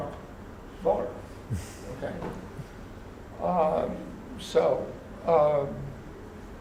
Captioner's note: laugh